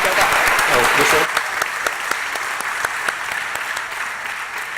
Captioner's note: applause